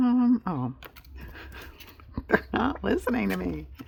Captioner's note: laughs